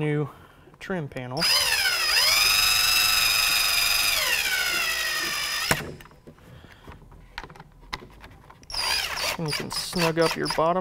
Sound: drilling sound

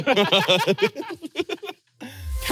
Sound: everyone laughs

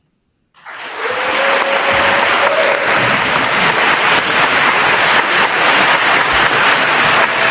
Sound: attendees applauding; attendees cheer

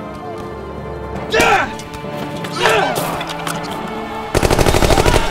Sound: attacking man grunting; blow thudding; gunshots booming; men yelling

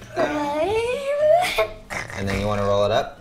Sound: yells

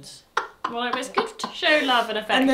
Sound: laughs

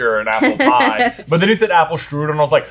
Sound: laughing

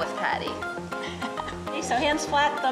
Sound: laughing

